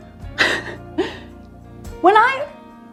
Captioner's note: laughs joyfully